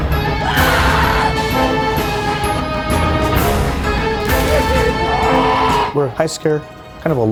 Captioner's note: haunting music; screams